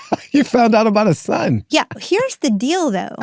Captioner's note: laughs